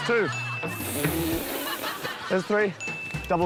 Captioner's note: ding!; exhales sharply